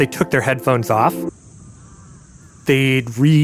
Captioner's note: quiet park sounds